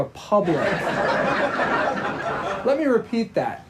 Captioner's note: audience laughing